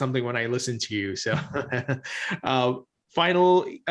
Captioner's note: chuckles